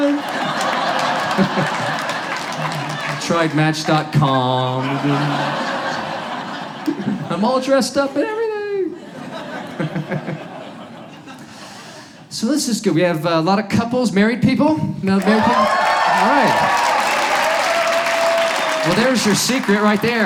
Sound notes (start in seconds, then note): 0.0 audience laughs; 8.8 audience laughs; 15.2 crowd cheering